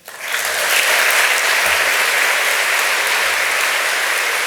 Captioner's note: audience applauds